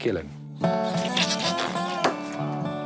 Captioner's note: spattering